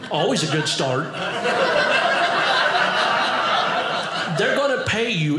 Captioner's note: audience laughing